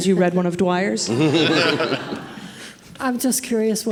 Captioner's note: audience laughing